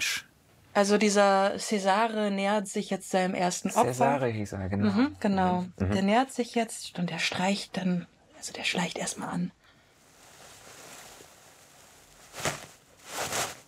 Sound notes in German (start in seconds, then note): 9.8 Leises Rascheln; 12.2 Lauteres Rascheln